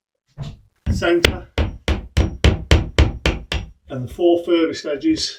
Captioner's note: hammer hammering